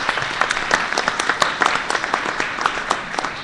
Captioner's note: applause